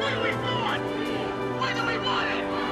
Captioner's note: crowd